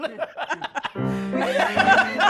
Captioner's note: laughter